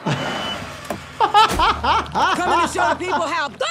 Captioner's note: laughter